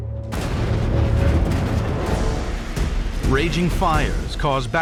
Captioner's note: banging